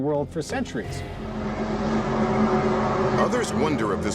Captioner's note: groaning sound